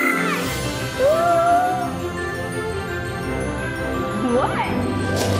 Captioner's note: gasps loudly; magical music; gasps loudly